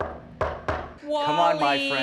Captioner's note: door knocking